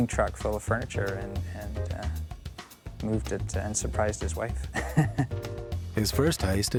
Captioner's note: chuckles